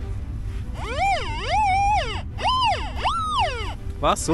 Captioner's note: squeaks